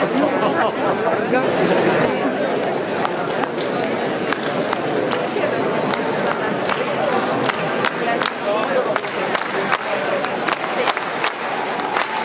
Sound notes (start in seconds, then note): 1.7 applause; 1.7 milling crowd